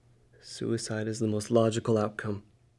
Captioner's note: none